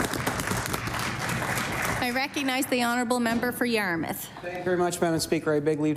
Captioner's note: applause